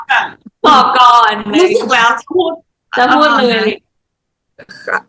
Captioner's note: laughs